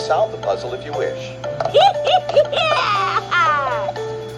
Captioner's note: Maria cheers